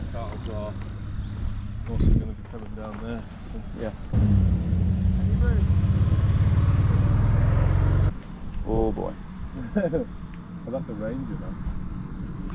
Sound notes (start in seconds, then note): 9.6 laughs